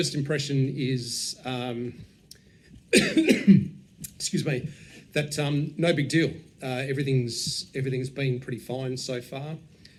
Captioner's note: coughs